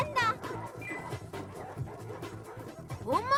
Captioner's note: panting